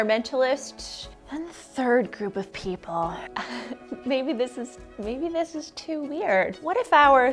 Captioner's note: laughs